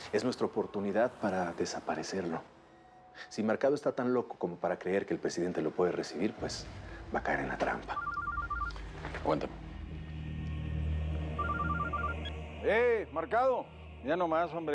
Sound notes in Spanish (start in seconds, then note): 7.9 suena el celular